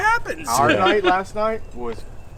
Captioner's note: laughing